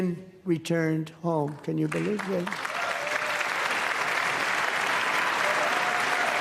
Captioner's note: applause